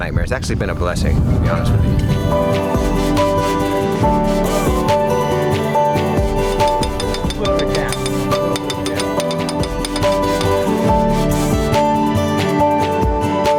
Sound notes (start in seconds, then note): 2.4 upbeat music; 6.2 tapping; 10.8 upbeat music